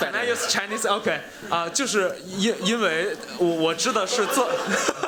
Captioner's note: speaking chinese